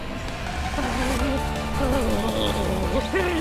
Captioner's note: music intensifies; Bertha grunting